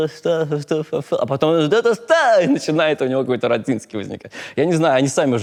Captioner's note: voice turns hysterical